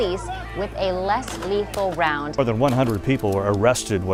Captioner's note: gunshots